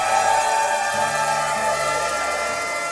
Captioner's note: noisemakers and cheering